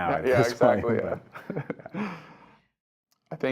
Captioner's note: laugh